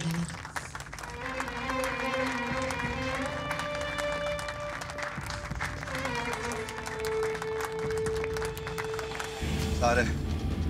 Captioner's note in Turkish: Alkış